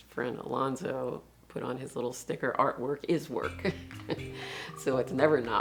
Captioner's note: laughs